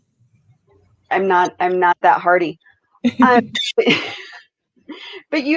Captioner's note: laughs